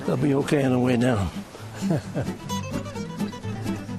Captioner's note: chuckles